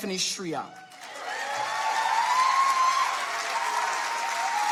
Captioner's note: audience applauding